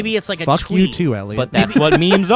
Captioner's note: laughs